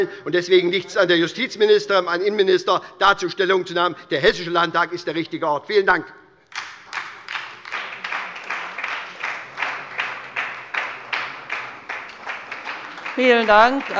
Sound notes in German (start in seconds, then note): 6.5 Beifall bei der SPD